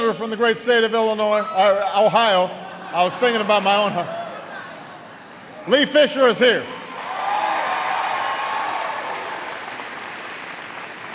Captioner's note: applause